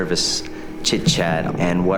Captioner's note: creaking